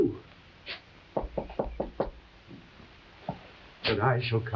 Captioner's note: knuckles tapping